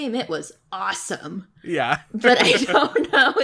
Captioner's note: laughs